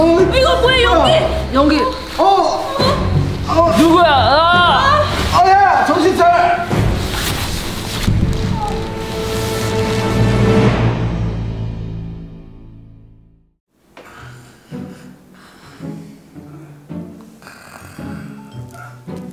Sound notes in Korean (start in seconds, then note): 2.2 고통스러운 신음; 4.9 신음; 17.3 코 고는 소리